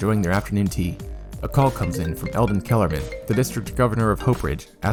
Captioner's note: phone rings